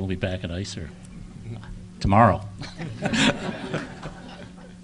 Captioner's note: audience laughing